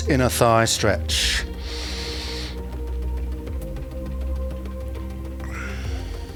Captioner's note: inhale